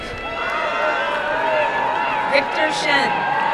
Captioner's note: crowd cheering and applauding